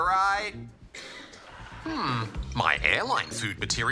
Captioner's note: coughing